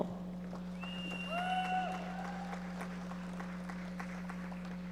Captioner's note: audience members applauding